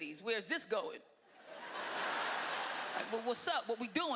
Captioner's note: laughter